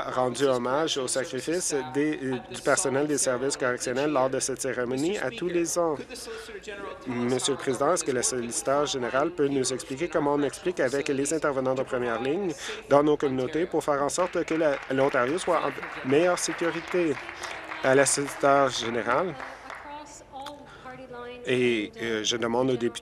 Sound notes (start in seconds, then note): 16.6 applause